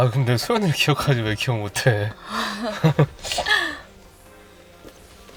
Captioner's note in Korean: 웃음